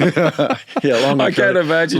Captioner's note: both laughing